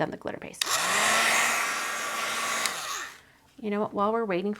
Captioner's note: dryer whooshing